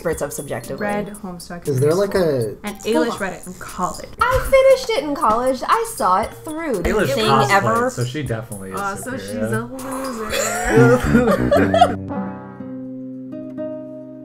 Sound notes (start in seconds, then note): 9.6 laughing; 12.4 sad music